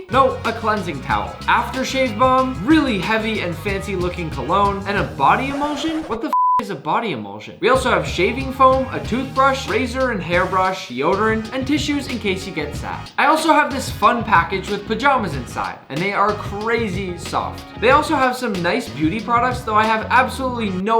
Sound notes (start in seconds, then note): 5.3 beep